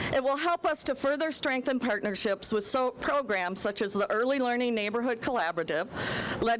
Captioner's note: none